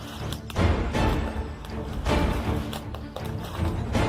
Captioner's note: bushes rustling